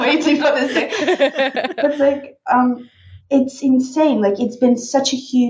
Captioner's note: laughing